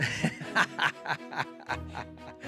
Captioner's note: laughs